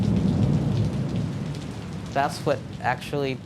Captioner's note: thunder crashes